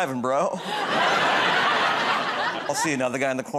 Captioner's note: laughter